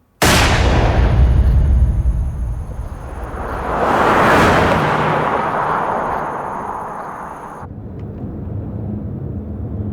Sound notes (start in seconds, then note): 0.2 booming; 3.8 car whooshing